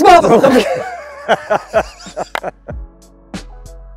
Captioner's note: laughing; lively music